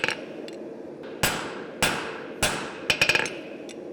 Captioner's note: sharp metallic hammering